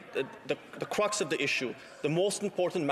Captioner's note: speaking French